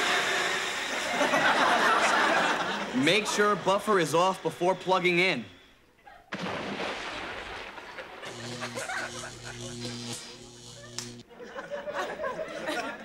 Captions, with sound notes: (audience laughing) - Make sure buffer is off before plugging in. (water splashing) (electricity sounds)